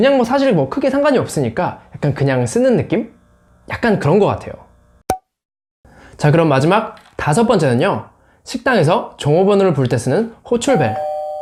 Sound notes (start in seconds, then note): 7.4 restaurant pager